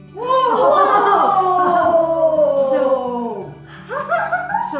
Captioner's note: laughs